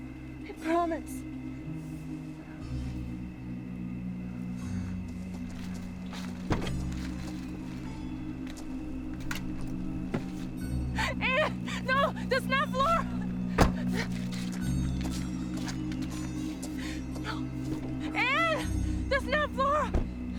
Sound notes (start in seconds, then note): 0.2 eerie music; 7.4 door clicks; 13.5 door thuds